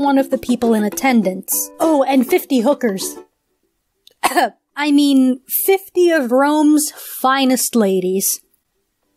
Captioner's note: clears throat